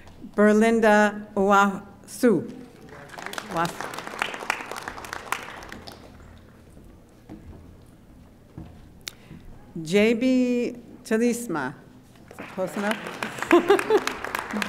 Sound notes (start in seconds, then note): 2.6 audience applauding; 13.2 laughs; 14.4 audience applauding